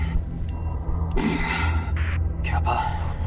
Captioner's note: suit beeping; Capa breathing